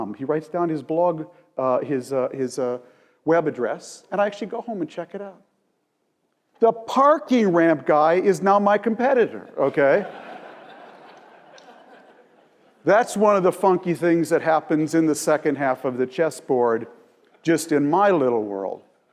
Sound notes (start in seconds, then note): 10.0 laugh